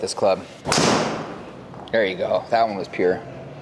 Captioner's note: impact of ball thudding; club swishing and clicking